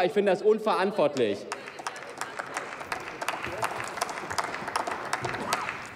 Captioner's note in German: Applaus, Zwischenrufe